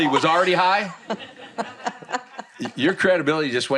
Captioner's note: laughter